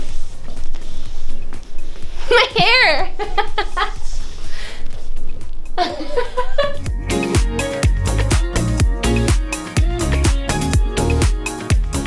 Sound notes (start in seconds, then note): 3.7 laughter; 6.7 upbeat music